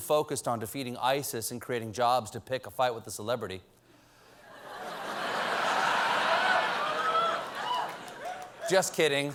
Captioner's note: laughter